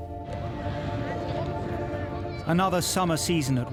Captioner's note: gentle music; kids chattering